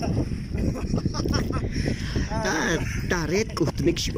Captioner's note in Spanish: risa